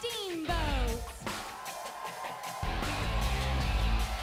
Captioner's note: crowd cheering